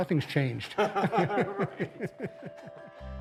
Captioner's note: laughter